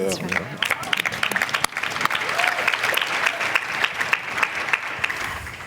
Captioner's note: applause